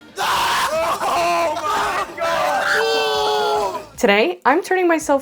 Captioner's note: gasping and exclaiming